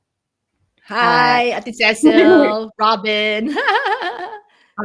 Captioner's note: laughter